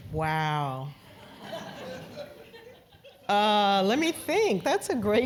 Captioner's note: laugh